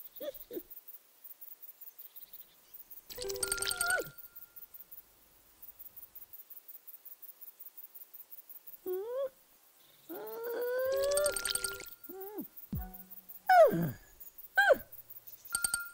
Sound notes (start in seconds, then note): 13.5 grunting